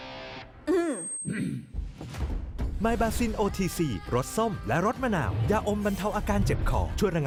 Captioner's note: clears throat